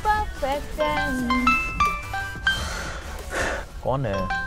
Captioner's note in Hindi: फ़ोन बजने की आवाज